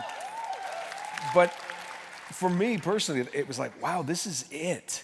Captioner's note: cheers and applause